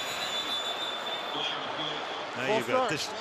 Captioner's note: whistle